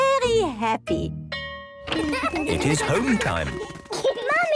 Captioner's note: school bell ringing